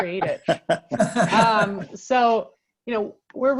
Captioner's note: laughter